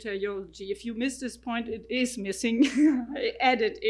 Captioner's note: laughs